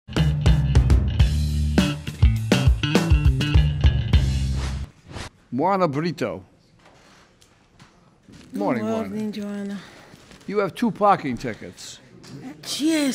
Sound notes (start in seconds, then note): 0.2 show tune music; 4.4 air whooshing